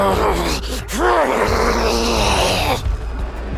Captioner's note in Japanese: うめき声